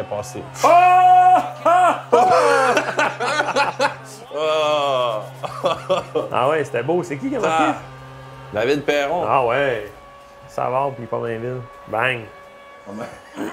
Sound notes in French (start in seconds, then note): 1.6 rires; 12.9 rire